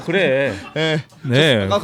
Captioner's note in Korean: 웃음